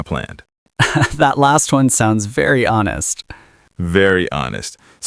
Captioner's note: laughs